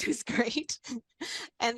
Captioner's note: chuckles